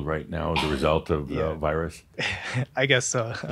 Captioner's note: he chuckles